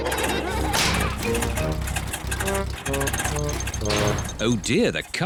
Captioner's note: all laugh; engine sputters